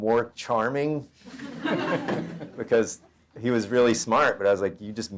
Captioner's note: audience laughter